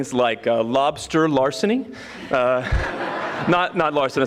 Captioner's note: audience laughing